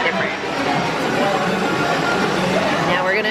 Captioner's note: mixer whirring